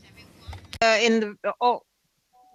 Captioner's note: speaking French